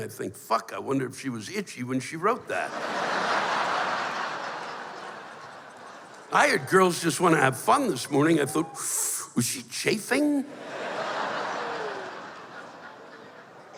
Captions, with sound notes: "Fuck! I wonder if she was itchy when she wrote that." [laughter] I heard "Girls Just Want To Have Fun" this morning, I thought, [sucking sound] "Was she chaffing?" [laughter]